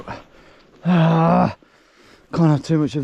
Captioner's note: grunting